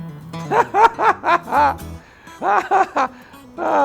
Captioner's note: laughs